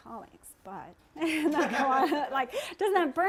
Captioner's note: laughter